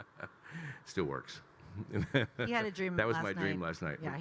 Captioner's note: Kyle laughing; laughs